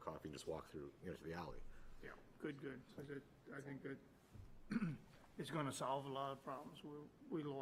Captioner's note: clears throat